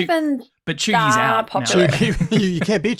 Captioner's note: laughs